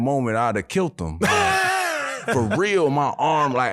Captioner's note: laughing